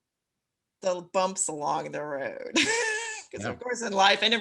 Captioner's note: chuckles